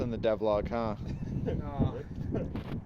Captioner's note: laughs